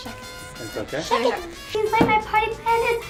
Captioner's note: laughs